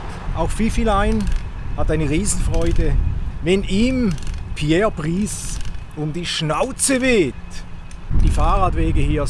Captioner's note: a gentle breeze